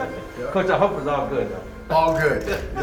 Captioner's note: laughs